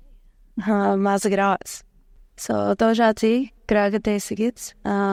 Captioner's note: speaking Hidatsa